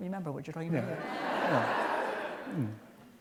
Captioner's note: laughter